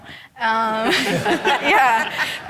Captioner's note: audience laughing